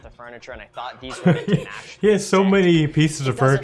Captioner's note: laughs